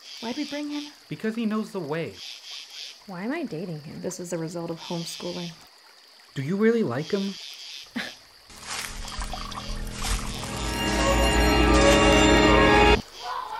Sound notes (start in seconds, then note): 8.0 Ariana chuckles; 10.8 shocking music